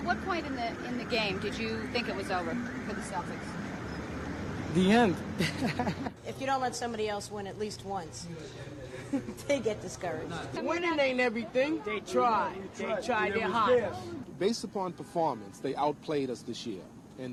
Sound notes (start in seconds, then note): 5.3 laughs